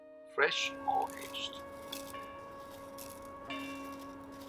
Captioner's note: leaves falling